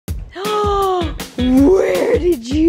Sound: bright music; gasps

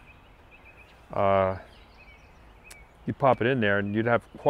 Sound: birds chirping

